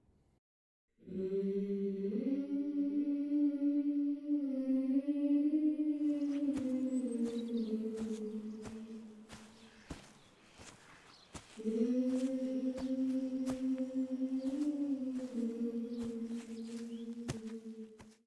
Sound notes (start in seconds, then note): 0.8 soft eerie humming and footsteps whisper in the air